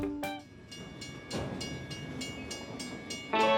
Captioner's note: train crossing chiming